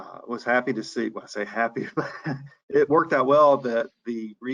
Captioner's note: laughs